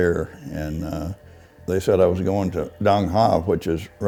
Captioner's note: none